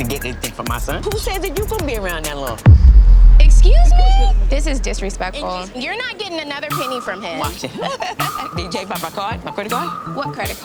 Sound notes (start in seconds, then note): 2.6 dramatic music; 8.6 laughing